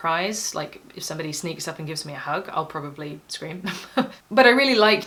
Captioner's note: chuckle